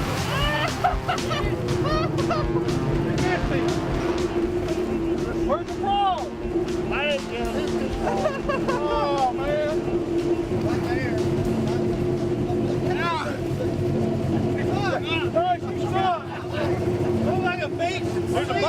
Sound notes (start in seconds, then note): 0.2 laughing; 10.1 laughing